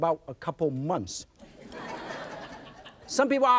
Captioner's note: audience laughs